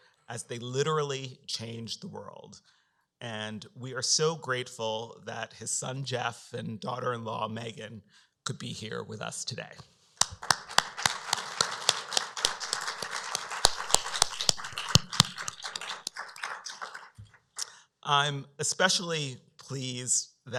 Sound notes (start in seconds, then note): 10.2 applause